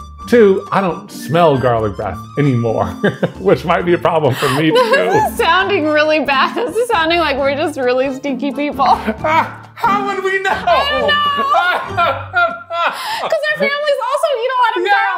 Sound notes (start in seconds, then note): 3.0 chuckling; 4.4 laughing; 10.2 laughing